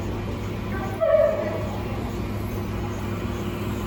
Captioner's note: dog barking; Pet tag engraver machine runs